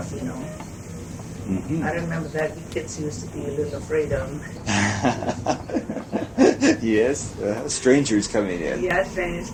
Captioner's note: laughing